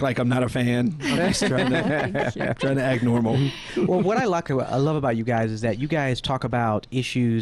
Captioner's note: laughing